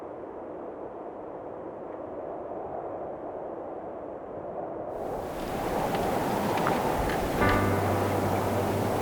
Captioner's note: wind rustling